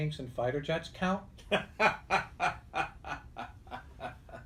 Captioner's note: laughs